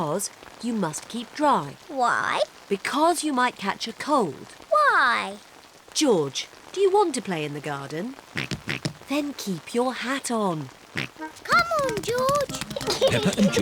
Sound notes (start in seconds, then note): 8.5 oinking; 11.2 oinks; 12.4 giggles